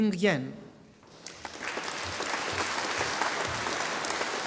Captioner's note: audience applauding